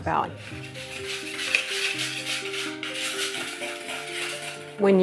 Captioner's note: whisk whirring